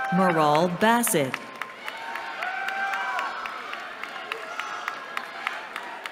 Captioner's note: cheering